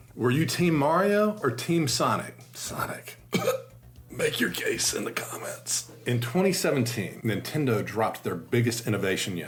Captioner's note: coughs